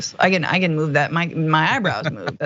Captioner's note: laugh